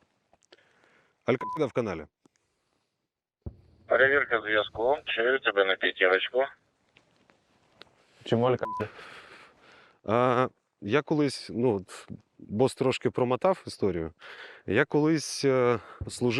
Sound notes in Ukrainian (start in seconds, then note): 1.2 у рацію; 3.7 з рації